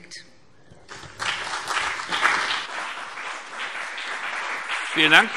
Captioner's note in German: Beifall BÜNDNIS 90/DIE GRÜNEN und CDU